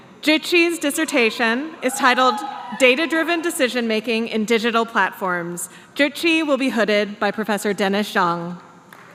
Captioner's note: applause